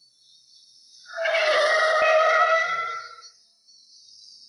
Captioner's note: tires squealing